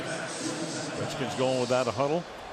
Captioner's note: pa announcement